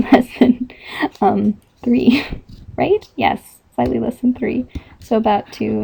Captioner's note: laughing